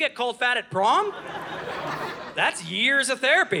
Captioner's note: audience laughing